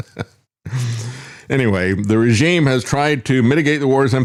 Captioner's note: laughs